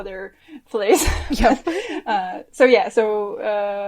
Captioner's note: laughs